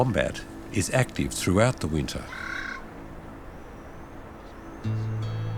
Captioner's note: bird squawks